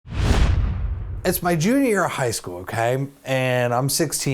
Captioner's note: swoosh